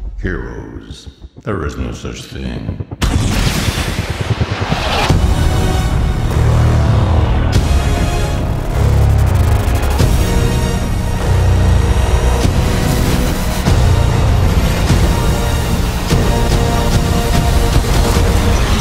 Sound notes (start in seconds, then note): 3.0 rotor blade sounds, rockets launch; 4.9 explosion